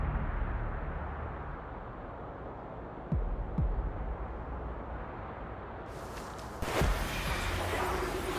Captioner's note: whooshing